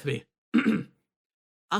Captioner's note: clears Throat